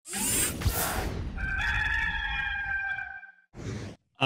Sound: rooster crowing

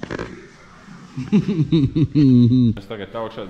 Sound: evil laughs

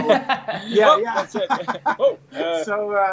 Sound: laughing

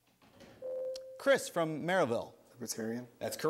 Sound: ding

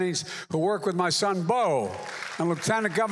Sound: applause

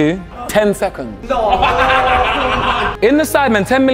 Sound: group laughs

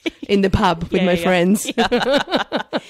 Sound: laughs

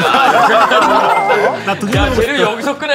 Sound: haha

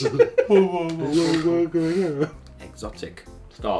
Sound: soft moans

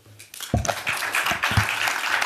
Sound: applause

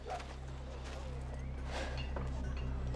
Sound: sighs

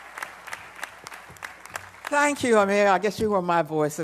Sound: applause

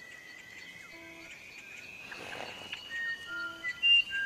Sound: machine beeps

